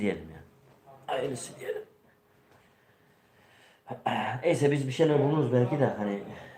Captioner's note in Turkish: boğazını temizler